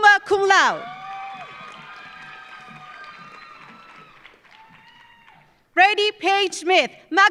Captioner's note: audience cheering; audience applauding